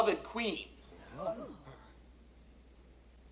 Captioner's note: people gasping